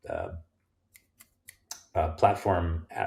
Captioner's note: fingers snapping